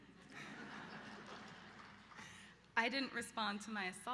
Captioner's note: laughter